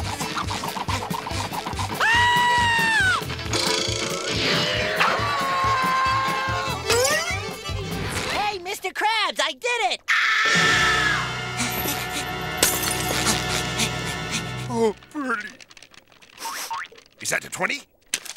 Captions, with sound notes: [screaming] Hey, Mr Crabs, I did it. Oh, pretty. Is that a twenty?